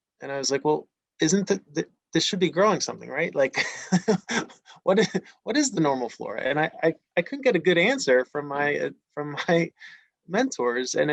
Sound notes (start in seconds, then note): 3.5 laughs